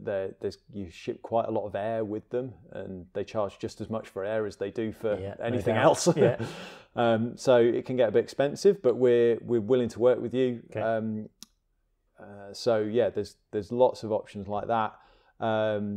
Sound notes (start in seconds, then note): 5.4 chuckles